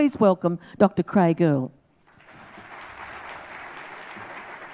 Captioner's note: audience claps